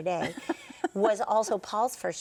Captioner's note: laughing